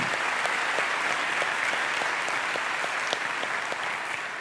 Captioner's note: applause